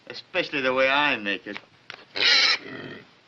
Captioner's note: squeals